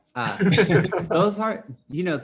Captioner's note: laughs